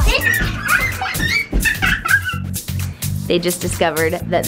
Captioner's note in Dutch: Lachende kinderen